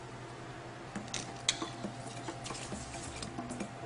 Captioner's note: sizzling